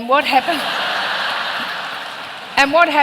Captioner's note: laughter